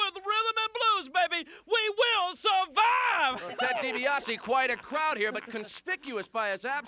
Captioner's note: laugh